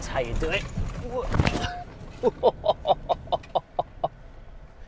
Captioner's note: laughs